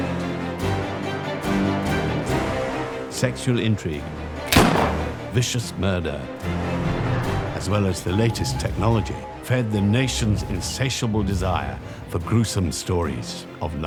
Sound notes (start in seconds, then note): 0.2 dramatic music; 4.5 gun fires